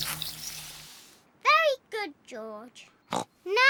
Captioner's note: snorts